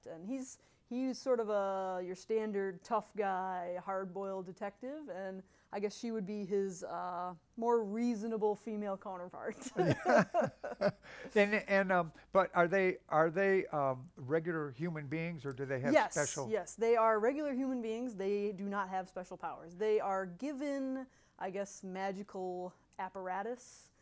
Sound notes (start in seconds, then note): 9.6 laughter